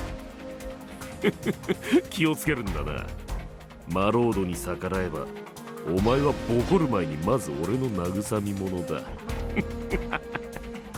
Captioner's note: snickers